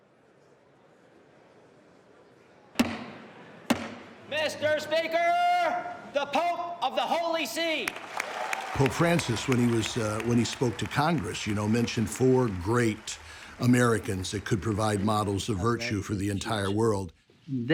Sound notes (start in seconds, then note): 2.8 gavel pounding; 8.2 clapping